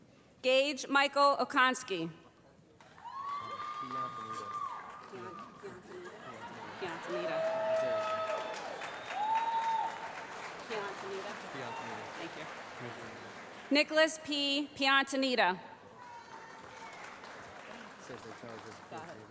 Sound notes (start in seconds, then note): 2.9 cheering; 5.9 audience laughing; 16.0 applause